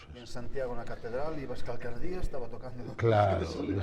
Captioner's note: laughs